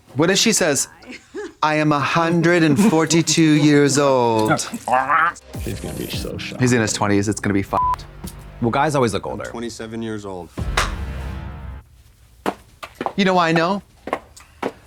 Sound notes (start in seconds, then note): 7.7 beep; 10.8 Trixie claps